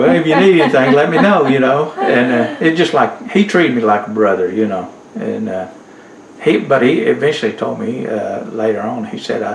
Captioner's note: laughter